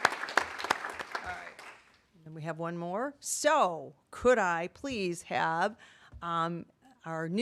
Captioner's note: applause